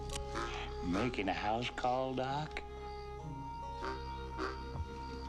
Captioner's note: pistol clicks; low plucky music